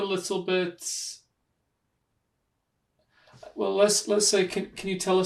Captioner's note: pauses for 3 seconds